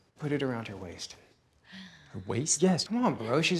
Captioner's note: sighs